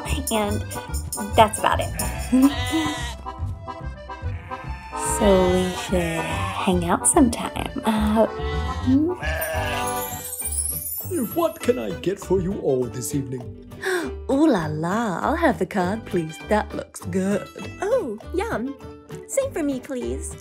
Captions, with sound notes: and... that's about it. *giggles* / *sheep bleats* So, we should, hang out sometime. Hah. Hm? What can I get for you all this evening? *gasp* Ooh La La! I'll have the cod, please. That looks good! -Ooh! Yum! Same for me, please.